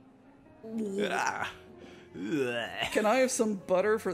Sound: Poe and Finn making grossed-out noises

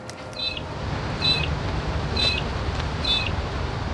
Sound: birds chirping

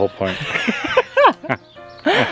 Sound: laughter

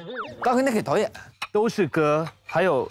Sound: sweet talking

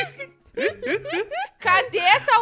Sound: laughs

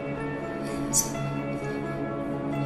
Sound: breathing heavily

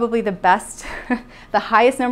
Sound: laughs

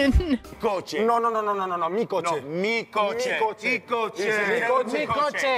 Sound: quarrelling in Spanish

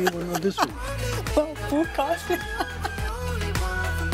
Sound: laughs

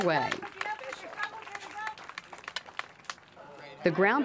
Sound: clapping

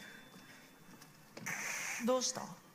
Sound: hiss

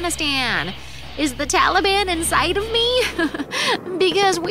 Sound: laughs

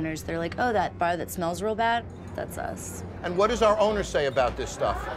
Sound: none

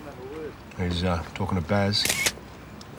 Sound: camera clicks

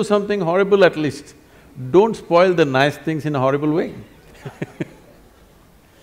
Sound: laughs

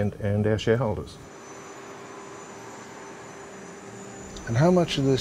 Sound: airplane engine whirs

